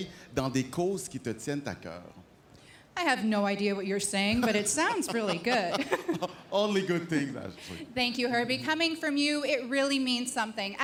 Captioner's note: speaking French